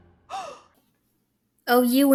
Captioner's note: gasping